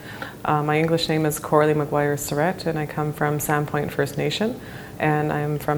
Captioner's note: speaking in English